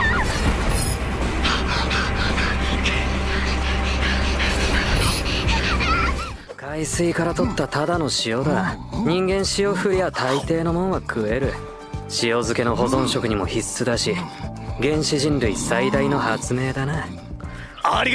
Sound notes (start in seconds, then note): 0.5 panting heavily